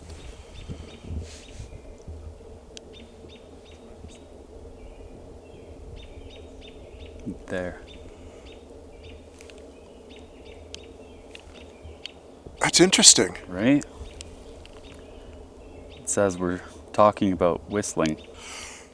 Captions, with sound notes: (birds chirping) There. - That's interesting. - Right? It says we're talking about whistling.